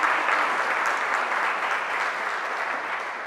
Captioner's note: applause